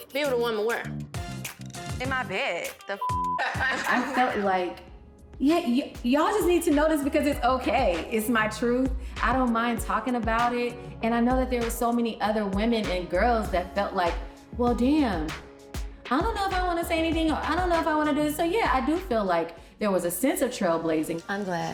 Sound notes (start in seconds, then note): 3.0 beep; 3.4 women chuckling